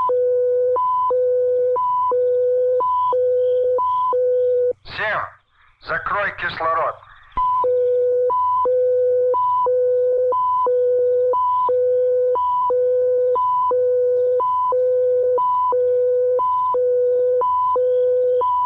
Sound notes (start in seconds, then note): 4.6 soldier speaking in Russian; 6.1 machinery beeping